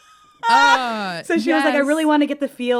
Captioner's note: laughter